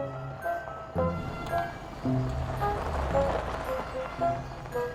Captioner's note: car engine revving